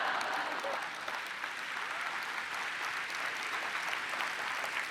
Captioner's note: audience laughs; audience applauds